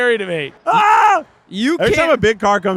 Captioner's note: shouting